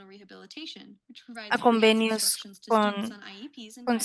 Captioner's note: speaking spanish